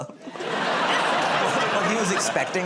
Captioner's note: laughter